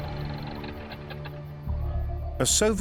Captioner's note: engine stops